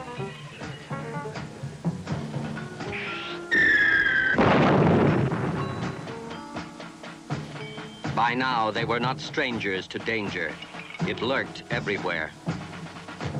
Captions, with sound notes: (rocket whistling) By now, they were not strangers to danger. It lurked everywhere.